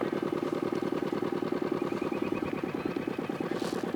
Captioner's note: boat motor humming